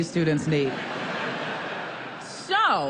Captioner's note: laughter